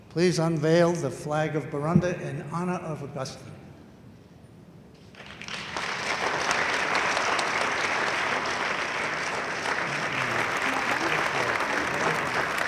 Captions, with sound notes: Please unveil the flag of Burundi in honor of Augustin. (audience applauds enthusiastically)